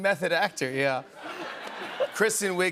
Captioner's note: laughter